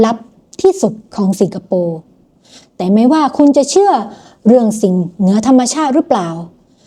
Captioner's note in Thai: เสียงสูดหายใจ